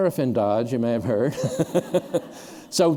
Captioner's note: laughter